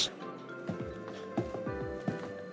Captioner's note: footsteps